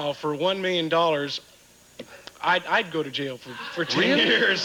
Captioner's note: audience laughing